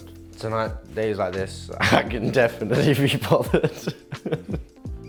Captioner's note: laughs